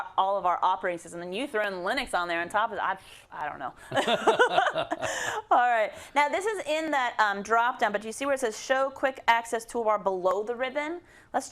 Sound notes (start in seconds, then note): 3.9 laugh